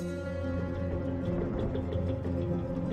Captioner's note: thunder booming; rain pattering